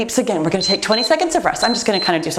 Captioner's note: timer beeps